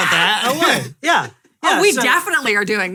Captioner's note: laughing